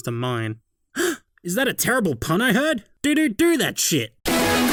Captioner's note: gasp